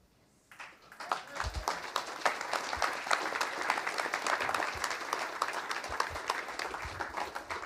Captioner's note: applause